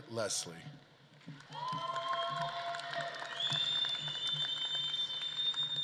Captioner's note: audience claps and cheers